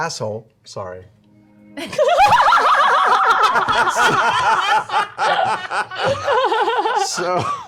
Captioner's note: laughter